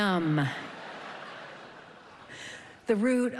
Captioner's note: laughter